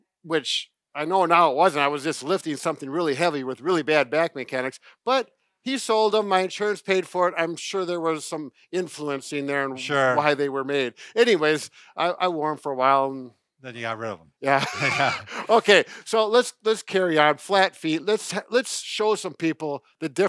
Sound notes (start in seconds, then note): 14.5 laughs